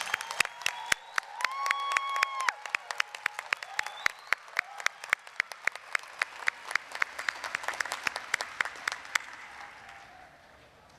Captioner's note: applause, cheering